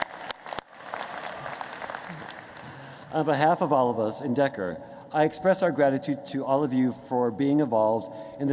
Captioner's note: applause